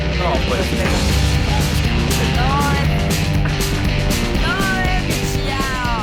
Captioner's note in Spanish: Exclamaciones